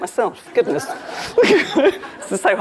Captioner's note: laughs; crowd laughing